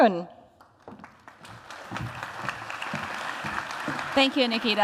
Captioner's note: applause